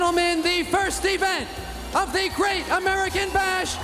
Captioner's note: crowd cheering